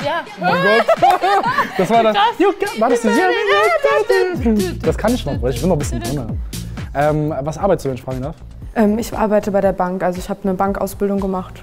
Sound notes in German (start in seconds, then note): 0.4 Freudige Laute; 4.4 Sie summen eine Melodie